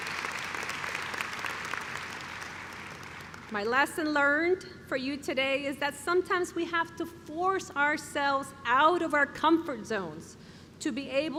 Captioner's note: cheering